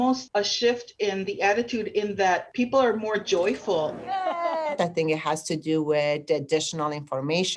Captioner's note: speaking spanish